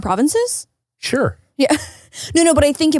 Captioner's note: laughs